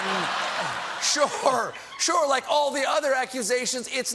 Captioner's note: laughter